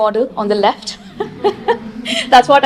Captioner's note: she laughs